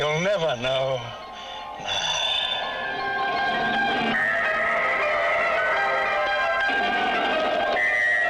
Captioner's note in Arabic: هدير محرك الصاروخ; موسيقى مبهجة